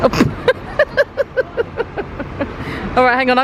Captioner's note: laughing